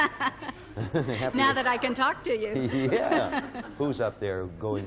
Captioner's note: laughing